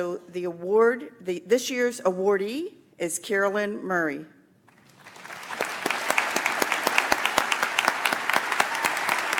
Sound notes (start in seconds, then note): 4.8 audience applauds